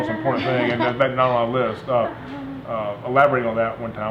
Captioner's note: laughing